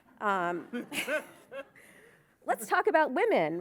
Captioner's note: audience laughing